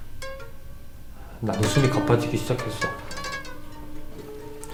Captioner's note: gasping